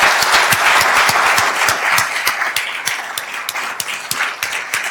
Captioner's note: attendees applauding